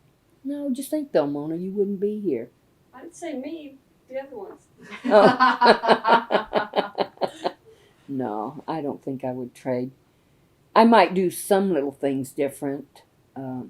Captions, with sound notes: No, just think, though, Mona, you wouldn’t be here. I didn’t say me—the other ones. (Laughter) I don’t think I would trade. I might do some little things different.